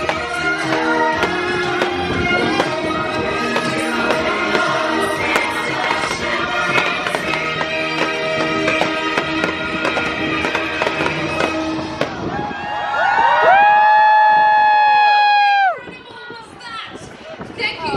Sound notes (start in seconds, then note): 12.0 crowd cheering